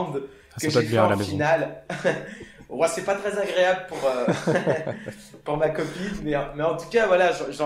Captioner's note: laugh